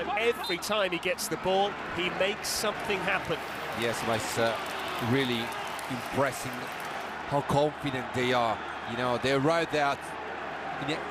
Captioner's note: cheers and applause; crowd noise